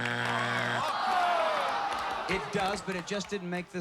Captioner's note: buzzer; audience groans